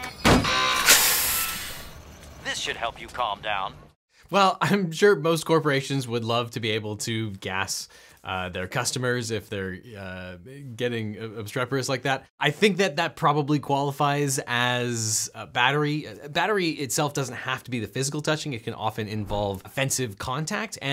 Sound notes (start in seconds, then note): 0.1 buzzer sounds; 2.5 automated Voice